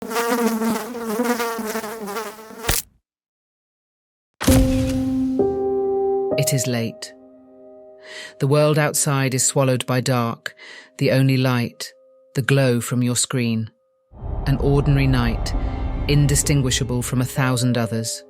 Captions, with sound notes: (fly buzzing) (fly splatting) (creepy piano music) It is late. The world outside is swallowed by dark, the only light, the glow from your screen. An ordinary night, indistinguishable from a thousand others...